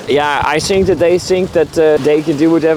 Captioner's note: none